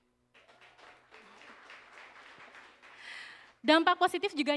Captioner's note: applause